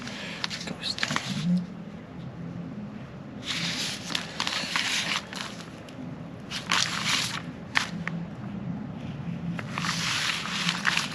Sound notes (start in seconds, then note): 3.1 mail rustling